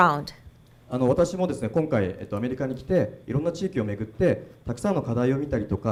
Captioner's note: speaking foreign language